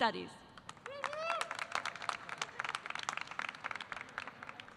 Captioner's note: audience applauding